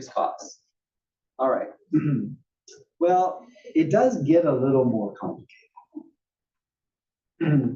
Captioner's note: cough; cough